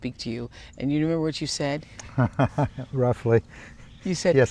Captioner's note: laughs